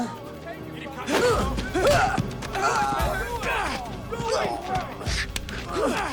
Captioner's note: Henderson and Dalton grunting